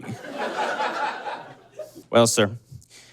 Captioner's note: audience laughs